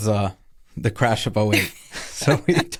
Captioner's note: laughing